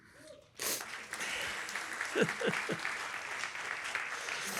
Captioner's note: applause